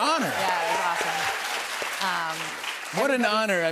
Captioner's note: cheers and applause